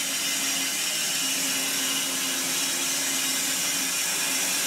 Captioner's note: saw whirring